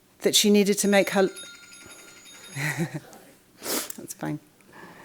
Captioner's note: bell ringing